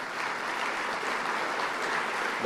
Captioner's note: applause